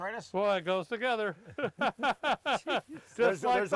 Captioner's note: laughing